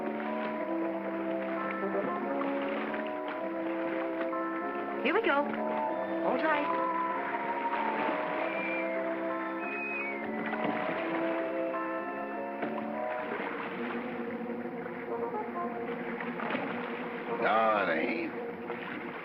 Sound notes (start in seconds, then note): 0.2 ominous whimsical music; 7.9 ominous whimsical music; 7.9 water splashing